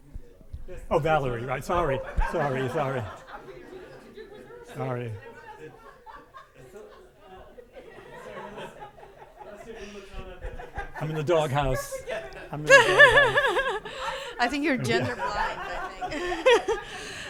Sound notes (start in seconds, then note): 3.1 everyone mumbling; 5.8 everyone laughing